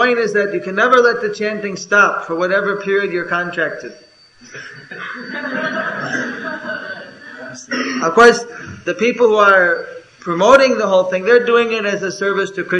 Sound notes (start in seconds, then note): 6.0 laughter